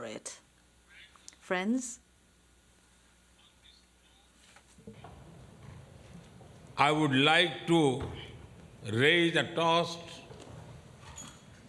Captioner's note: speaks English